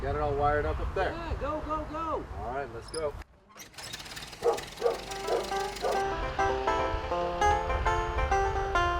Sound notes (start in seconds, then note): 3.3 engine starting; 4.4 dog barking; 4.9 country music